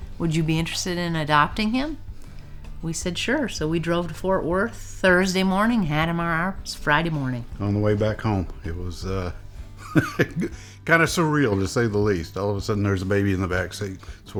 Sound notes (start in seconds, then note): 9.8 laughs